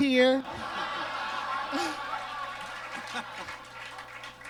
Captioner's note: audience laughs